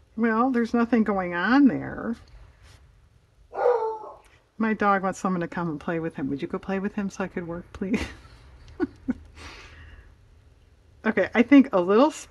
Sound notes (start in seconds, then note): 0.2 dog barks; 10.4 laughs